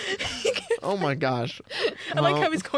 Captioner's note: laughing; laughs; laughing